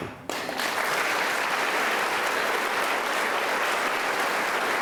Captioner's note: attendees applauding